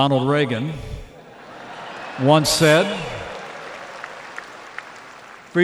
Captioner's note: laughter and applause